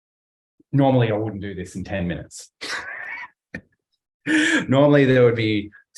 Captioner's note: laughs